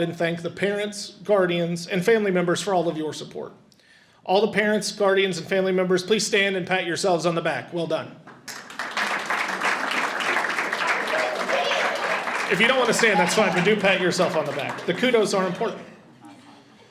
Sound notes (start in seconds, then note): 8.4 audience applauds